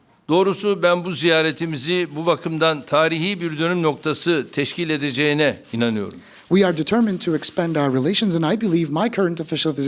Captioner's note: speaking Turkish